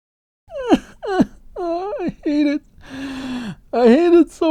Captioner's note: fake crying